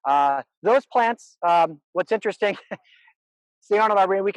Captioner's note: chuckles